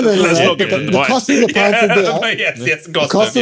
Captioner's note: laughing